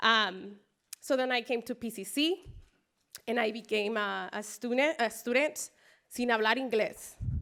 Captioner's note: spanish speech